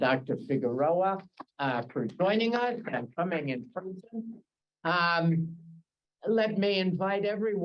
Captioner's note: Hebrew